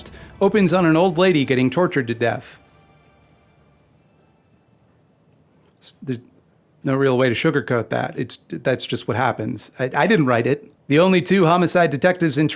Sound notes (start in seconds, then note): 2.7 awkward silence